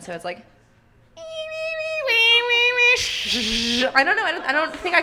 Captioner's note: does impression of dial-up modem sound